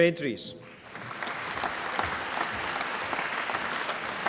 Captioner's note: applause